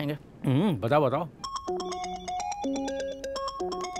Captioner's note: Cellphone rings